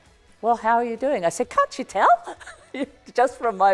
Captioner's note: laughs